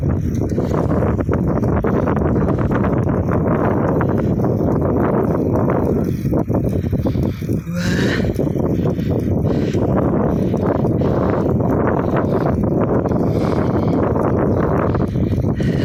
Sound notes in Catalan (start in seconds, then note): 7.0 Esbufega